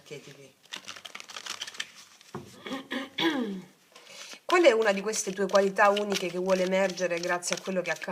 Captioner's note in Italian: schiarire la voce